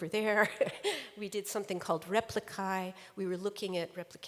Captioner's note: chuckles